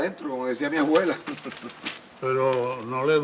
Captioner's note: Zalduondo laughs